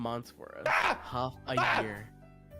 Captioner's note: screams